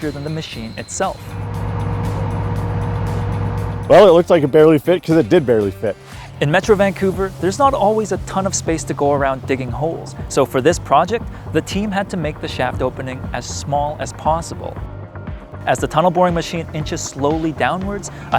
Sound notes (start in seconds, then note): 1.6 machine whirring; 1.6 upbeat music